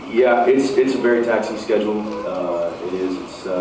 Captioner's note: none